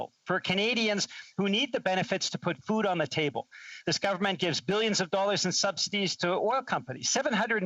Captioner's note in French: voix de l'interprète